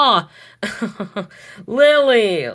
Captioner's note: Hades chuckles softly